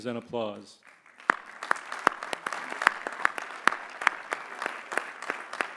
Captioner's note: applause